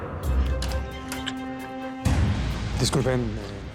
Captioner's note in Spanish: ruido al entrar